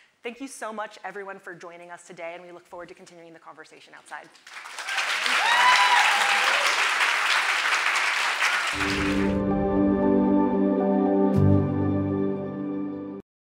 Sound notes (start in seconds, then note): 4.4 audience applauding; 8.8 light music